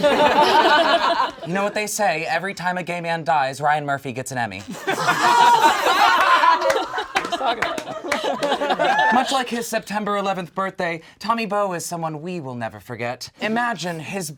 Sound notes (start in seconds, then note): 0.0 all laugh; 4.6 all laugh